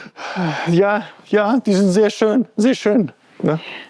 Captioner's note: sighs